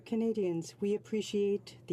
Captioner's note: speaking French